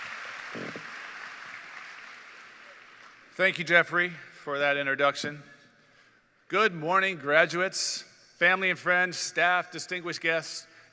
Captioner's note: cheers and Applause